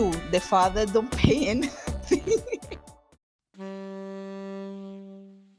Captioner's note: giggles